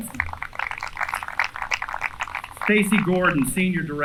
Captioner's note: applause